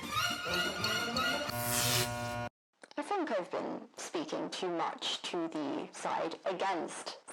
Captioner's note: electronic zap